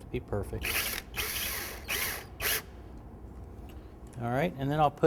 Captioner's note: drill whirs